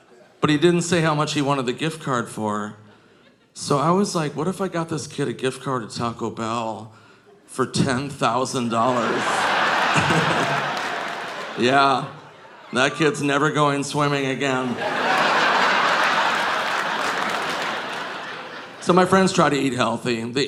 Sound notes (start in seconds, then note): 8.5 audience laughing; 9.7 Nick chuckles; 14.4 audience laughing; 14.6 audience applauding